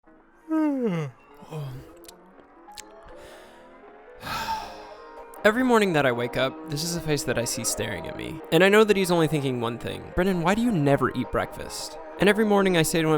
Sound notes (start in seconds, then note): 0.4 yawn